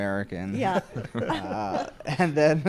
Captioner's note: laughs